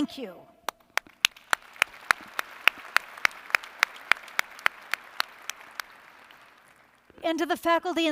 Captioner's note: applause